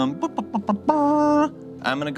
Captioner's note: imitates trumpet